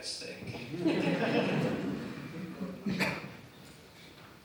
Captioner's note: audience laughing